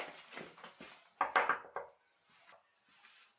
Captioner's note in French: Toc toc